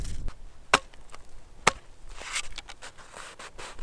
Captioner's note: tapping